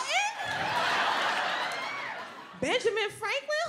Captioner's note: audience laughs